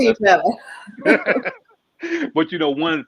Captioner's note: both laughing